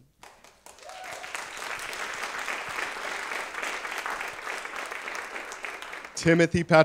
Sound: applause

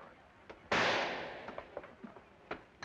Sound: gunshot

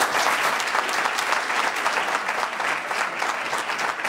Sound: applause

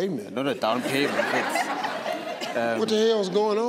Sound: audience laughing

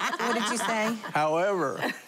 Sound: laughing

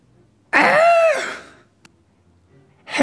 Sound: shriek

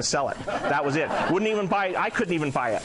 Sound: audience laughs

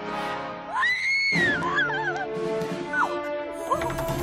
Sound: screaming

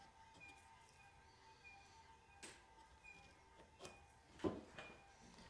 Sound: machine beeping

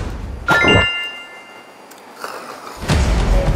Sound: smacking her lips

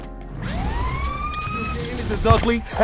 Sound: sirens

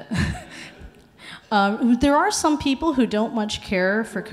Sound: laughs

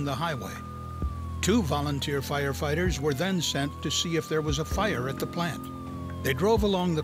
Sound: sound of sirens

